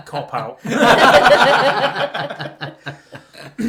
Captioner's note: laughter